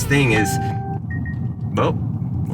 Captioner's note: beeping